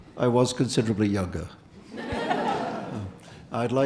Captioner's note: audience laughing